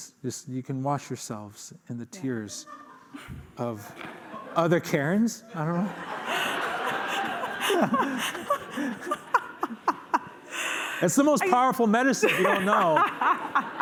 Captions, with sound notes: Just you can wash yourselves in the tears of other Karens. I don't know. [laughter] It's the most powerful medicine, if you don't know.